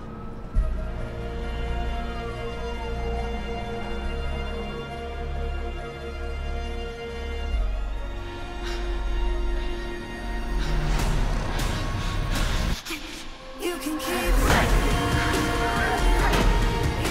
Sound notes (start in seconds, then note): 8.6 breathing heavily